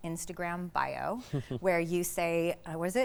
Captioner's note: chuckling